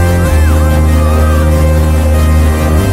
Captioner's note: screaming